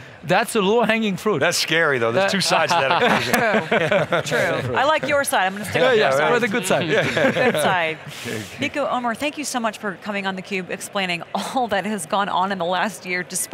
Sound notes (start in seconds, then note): 2.5 laughing